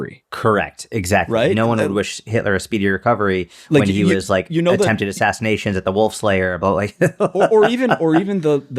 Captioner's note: chuckle